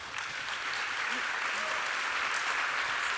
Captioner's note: applause